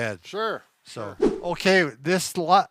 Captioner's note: scene swooshes